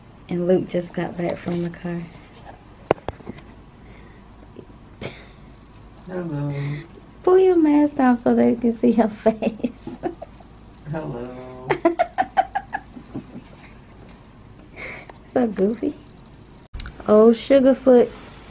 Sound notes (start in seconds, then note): 9.2 laughs; 11.7 laughs